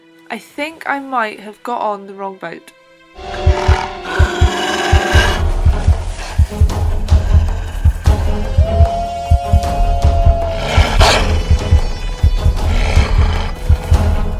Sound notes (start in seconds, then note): 4.9 wolf growls and snarls